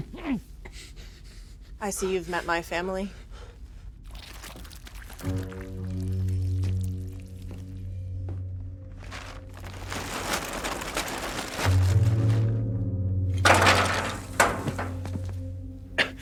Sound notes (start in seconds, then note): 4.1 flesh squelches; 5.2 ominous music; 8.8 tarp rustles; 13.4 bones clatter